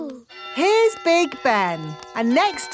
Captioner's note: clock chimes